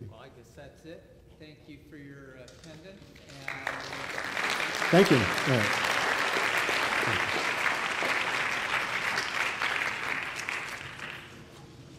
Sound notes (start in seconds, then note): 7.6 applause